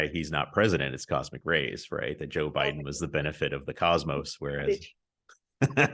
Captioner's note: polite laughs